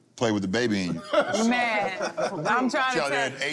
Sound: laughter

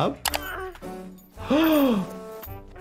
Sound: gasping; Handy grunting

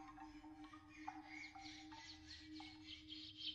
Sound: distorted birdsong

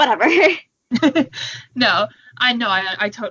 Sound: both laugh

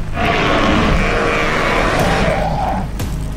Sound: spinosaurus Roar Sounds

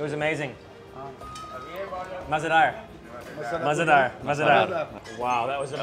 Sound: speaking in foreign language

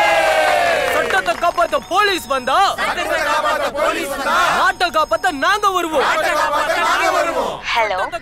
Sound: chants slogans

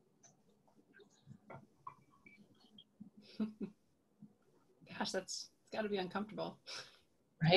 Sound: silence

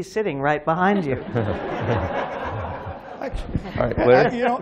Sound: laughter

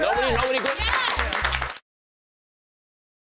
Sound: cheering and clapping

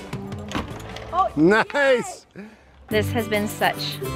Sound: chuckles

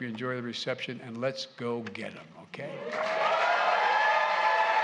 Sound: applause

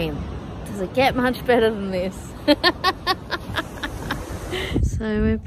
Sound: laughs joyfully

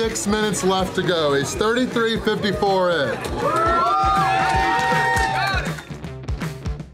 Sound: crowd cheering

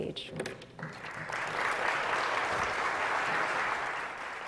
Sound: applause

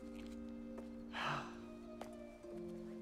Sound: sighing

